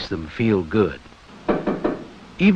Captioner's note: knocking